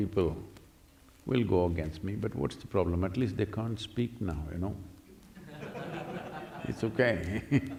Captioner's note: laughter